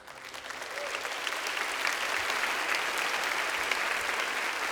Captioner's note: audience applauds